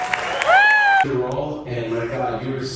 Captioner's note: audience cheering